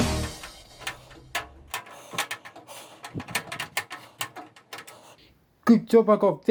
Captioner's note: screwdriver screwing fast motion